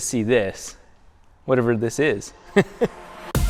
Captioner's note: laughs